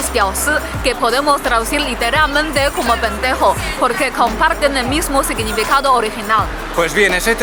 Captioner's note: in spanish lenguage